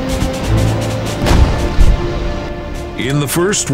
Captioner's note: canon fires